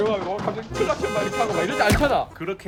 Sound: honking a horn

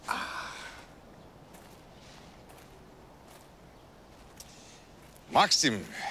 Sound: footsteps

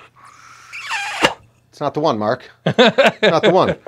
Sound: laughs

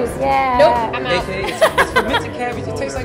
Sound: laughing

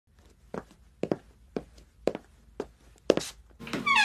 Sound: footsteps; door opens

